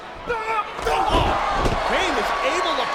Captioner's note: Kane yells